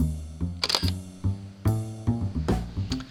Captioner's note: click